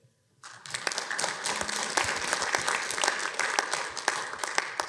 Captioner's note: audience applauds